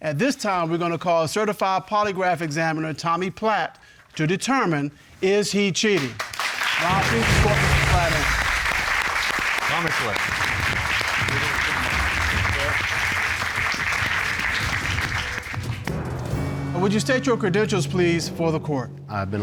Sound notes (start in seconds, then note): 8.9 applause